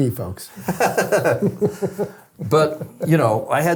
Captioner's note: both laughing